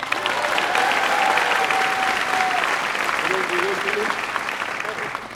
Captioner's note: applause